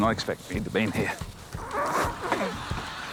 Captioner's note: groans